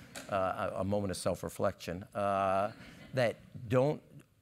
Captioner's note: laugh